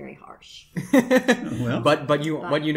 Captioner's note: sheepish laughter